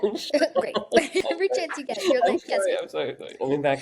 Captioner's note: laughs